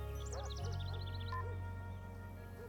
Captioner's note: phone beeps off, dog barks